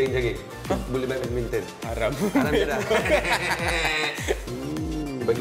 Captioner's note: cursing